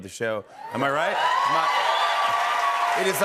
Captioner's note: cheers and applause